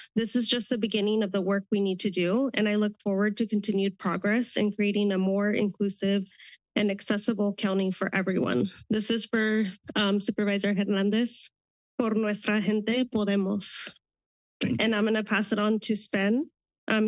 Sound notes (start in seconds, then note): 12.0 foreign language